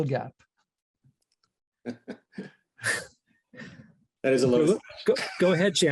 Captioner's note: laughter